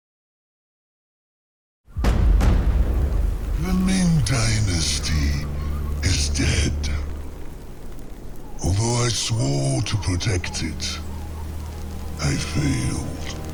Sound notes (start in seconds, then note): 3.5 distorted male voice